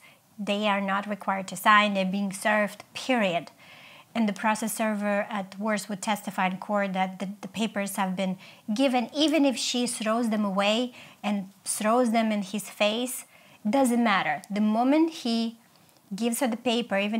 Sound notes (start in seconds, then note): none